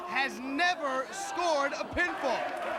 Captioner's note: crowd chatter